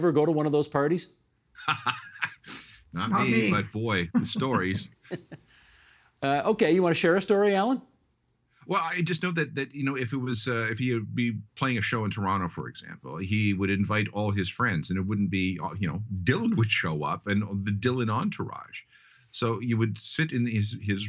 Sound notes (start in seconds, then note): 4.1 laughing